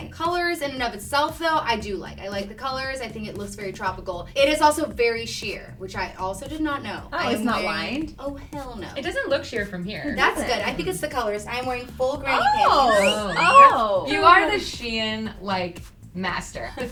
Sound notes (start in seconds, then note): 12.4 wolf whistle